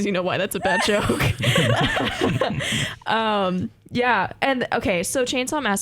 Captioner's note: laughter